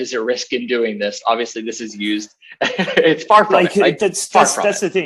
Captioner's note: laughs